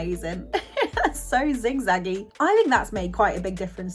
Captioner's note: laughs